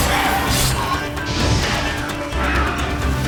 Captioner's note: shrieking; flames whoosh